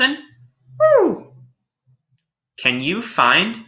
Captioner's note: canadian Snowy Owl hoots